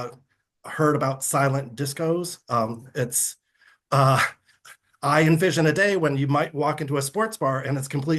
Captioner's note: chuckles